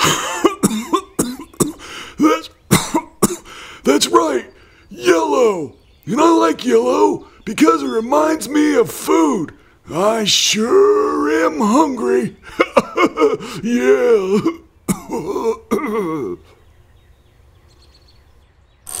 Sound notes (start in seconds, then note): 0.0 coughing; 14.8 clearing throat